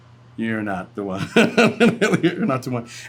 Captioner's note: laughs